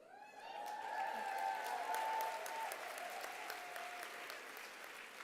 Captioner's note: applause